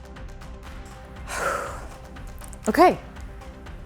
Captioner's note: sighing